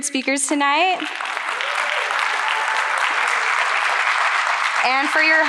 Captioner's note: audience clapping